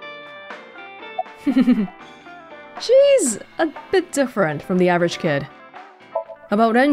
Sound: chuckles

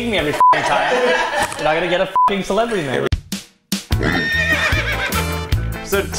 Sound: pitido; Pitido

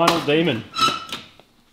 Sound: squeaks

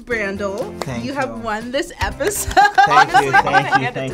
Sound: laughs

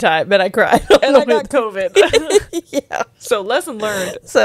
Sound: laughs

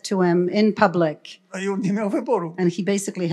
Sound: foreign language

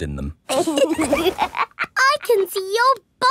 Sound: laughs

